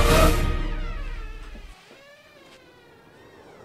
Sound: door creaks open

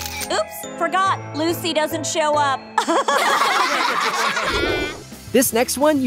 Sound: laughing

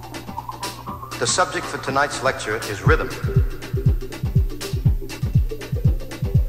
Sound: narration over the music

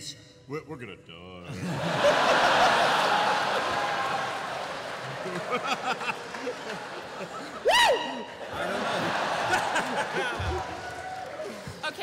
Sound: laughter

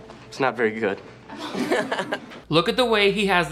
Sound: classmates laughing

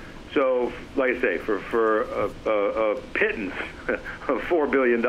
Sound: laughs

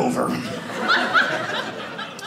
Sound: audience laughing

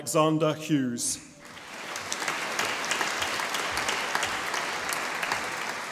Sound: audience applauding

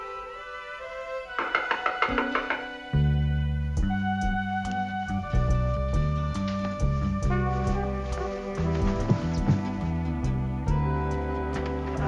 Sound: knocking

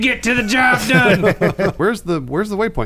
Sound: laughing

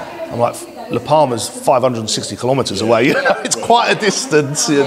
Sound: laughs

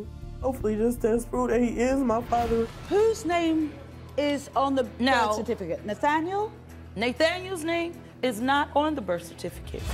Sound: none

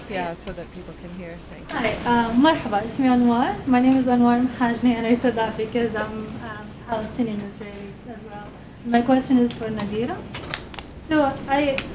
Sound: greets in Arabic

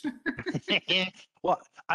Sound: chuckling

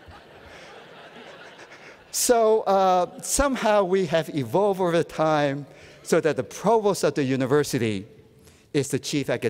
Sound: laughter

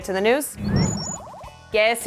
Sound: swoosh sound

